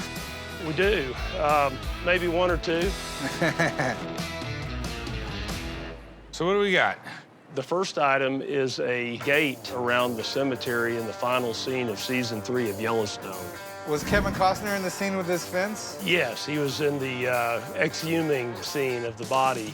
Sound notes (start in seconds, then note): 3.2 chuckles